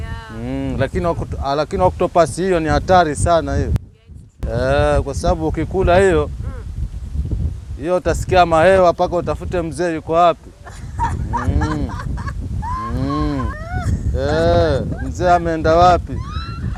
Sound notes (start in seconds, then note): 10.5 bursts out in laughter; 15.8 more laughter